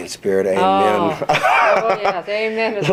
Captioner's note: laughs